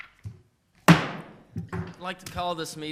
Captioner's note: gavel banging